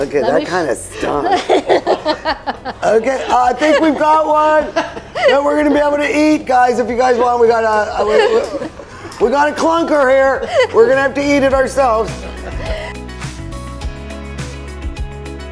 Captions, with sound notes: Okay. That kind of stunk. (laughing) Okay. I think we've got one. We're gonna be able to eat guys. If you guys want, we got a clunker here. We're gonna have to eat it ourselves. (upbeat music)